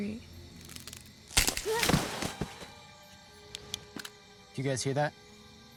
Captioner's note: branch snaps; grunts